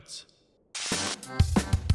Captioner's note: static